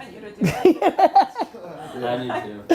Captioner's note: laughing